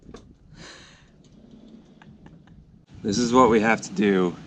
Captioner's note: laughs